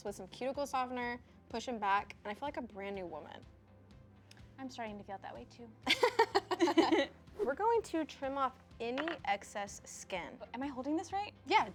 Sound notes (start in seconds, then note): 5.8 laughs; 5.9 chuckles